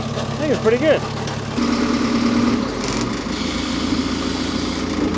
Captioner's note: telehandler rumbles